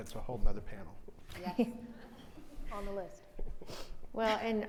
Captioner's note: chuckles